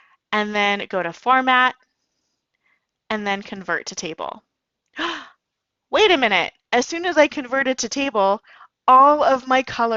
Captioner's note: gasp